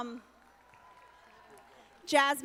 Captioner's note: audience applauding